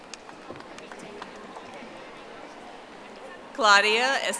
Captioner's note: audience applauding